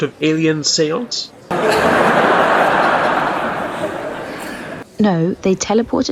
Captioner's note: canned laughter